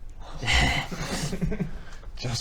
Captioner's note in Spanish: risas